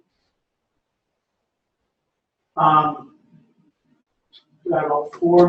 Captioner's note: pause